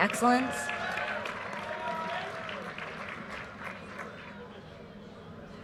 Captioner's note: audience cheers and applause